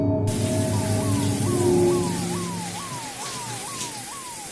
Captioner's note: police siren